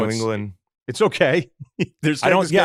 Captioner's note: laughs